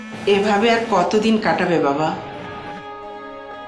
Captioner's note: phone vibrating